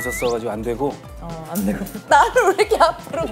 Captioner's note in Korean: 스윽